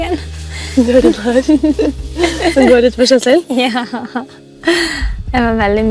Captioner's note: giggles